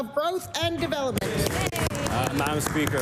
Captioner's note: applause